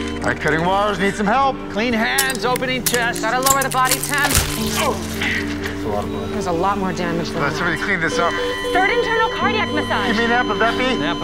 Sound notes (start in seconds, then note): 4.5 liquid squirting; 8.2 beeping